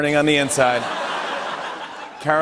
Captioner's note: laughter